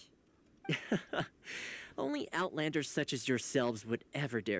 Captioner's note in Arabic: يضحك